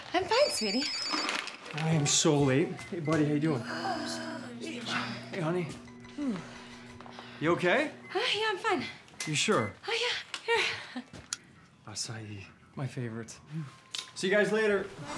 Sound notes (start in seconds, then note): 1.0 phone ringing